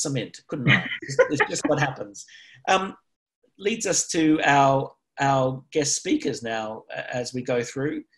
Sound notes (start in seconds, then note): 3.8 laughs